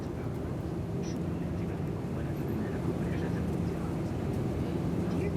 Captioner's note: airplane engine rumbling